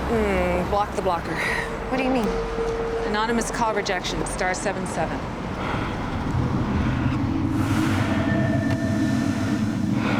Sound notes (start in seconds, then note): 8.9 man breathing